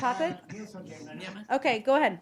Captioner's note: laughter